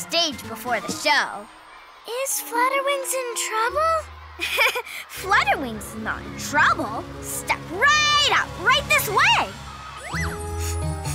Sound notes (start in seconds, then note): 4.4 giggles; 10.9 Snap Pea sniffs and giggles